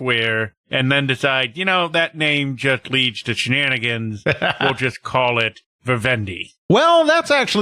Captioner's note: chuckes